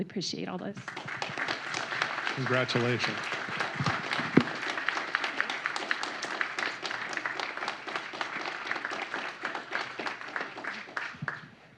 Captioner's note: applause; applause